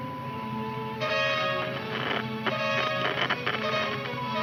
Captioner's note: radio crackles